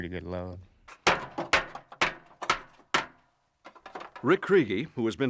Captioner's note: pounding metal